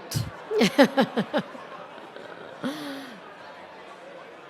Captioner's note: chuckling